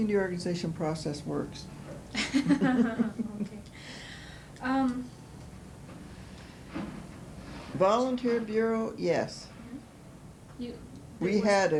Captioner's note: laughter